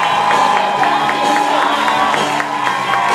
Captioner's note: audience cheers and applause